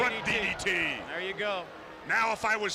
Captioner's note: crowd chatter